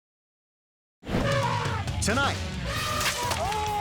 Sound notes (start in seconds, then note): 1.2 air whoosh; 2.6 elephant trumpeting